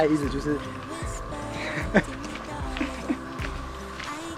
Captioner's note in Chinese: 奇怪的笑